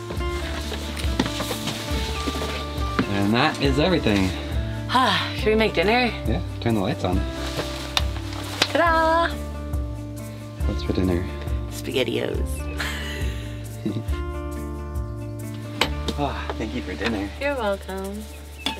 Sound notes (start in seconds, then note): 7.8 lights clicking; 12.7 laughing